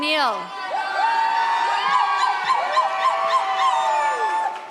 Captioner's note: audience applauds